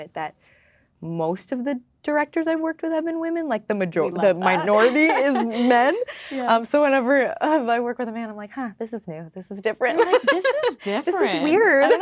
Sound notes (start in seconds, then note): 10.0 laughing